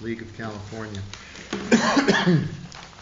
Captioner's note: coughs